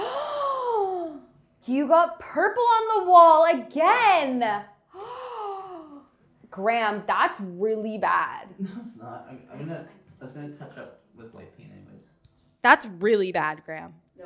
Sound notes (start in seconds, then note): 0.2 gasps